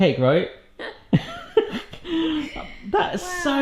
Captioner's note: giggling